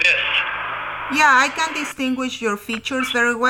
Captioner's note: voiceover